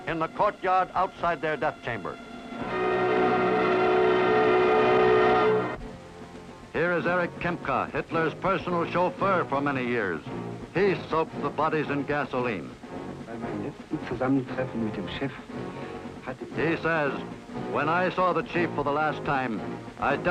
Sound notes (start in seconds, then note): 2.5 dramatic music sting; 13.7 speaking in German